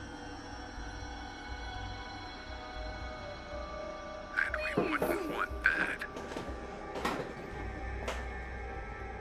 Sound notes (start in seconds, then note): 0.1 ominous music; 5.3 knocking; 6.1 frightened music